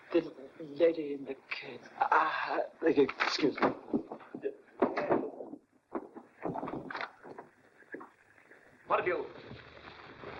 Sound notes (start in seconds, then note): 4.8 racing footsteps; 6.0 door opens